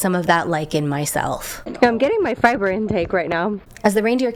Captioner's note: hoots